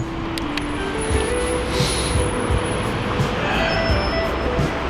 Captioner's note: wind Blowing